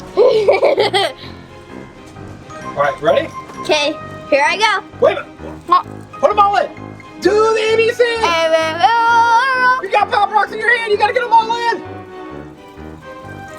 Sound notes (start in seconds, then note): 0.0 laughs; 8.5 mouth full